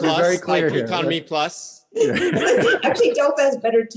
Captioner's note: laughs